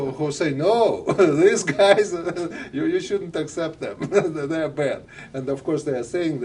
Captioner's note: laughter